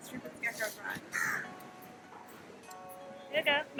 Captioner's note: bird cawing